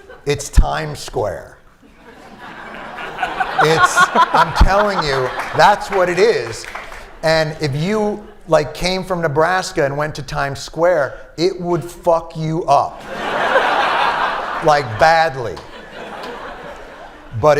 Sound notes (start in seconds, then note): 0.0 laughter; 1.8 laughter; 13.0 laughter